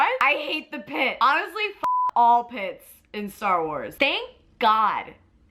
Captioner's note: beep